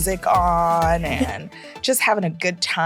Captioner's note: punchy music; giggling